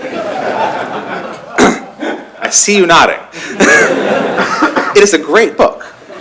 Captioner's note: laughter